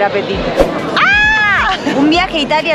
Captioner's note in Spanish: grito de emoción